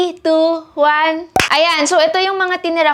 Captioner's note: clap